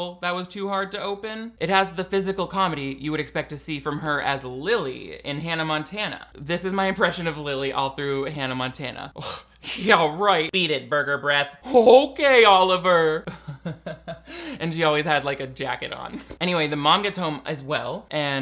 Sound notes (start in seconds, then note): 13.3 laughing